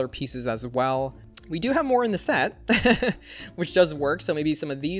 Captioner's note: laughs